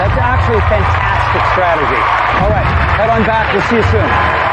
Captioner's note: applause